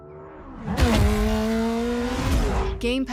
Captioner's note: car motor roaring